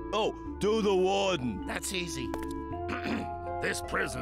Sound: ahem

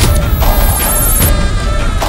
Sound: buzz

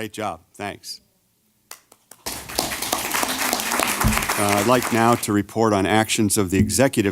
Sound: applause

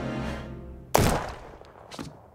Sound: gunshot

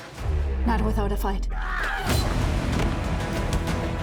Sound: yells, grunts; dramatic music continues

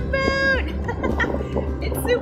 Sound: laugh

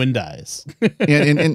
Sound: laughter

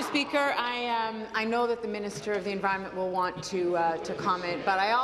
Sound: applause

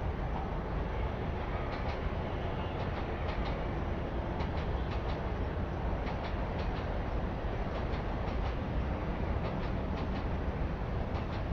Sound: train Noises

